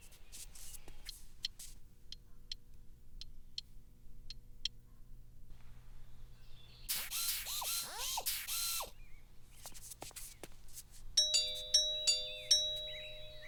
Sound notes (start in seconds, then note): 0.8 ticking; 6.9 whirring; 11.2 doorbell ringing